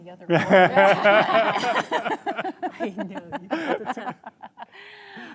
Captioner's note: audience laughs